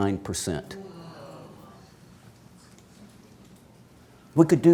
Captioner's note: audience exclaims